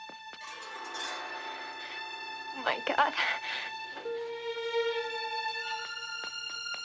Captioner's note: Tepuk tangan